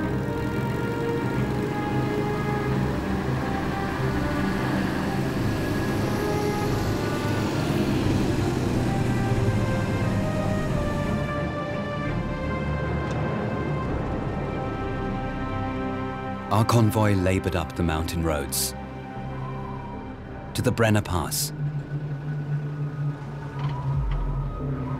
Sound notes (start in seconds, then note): 0.1 suspenseful music; 6.7 engines hum